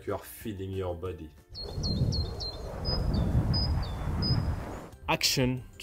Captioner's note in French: les oiseaux sifflent